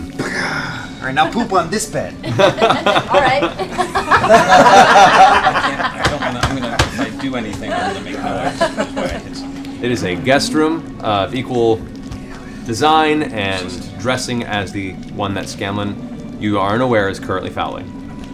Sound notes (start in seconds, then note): 2.2 laughter